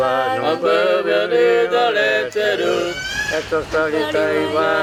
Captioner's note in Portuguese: grito de criança